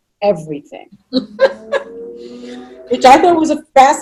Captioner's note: chuckling